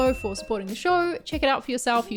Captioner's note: ding